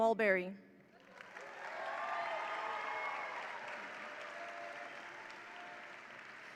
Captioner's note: attendees applaud; attendees cheer